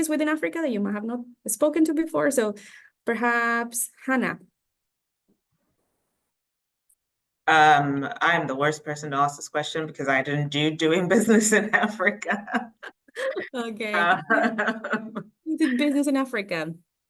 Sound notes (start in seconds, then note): 11.2 laughing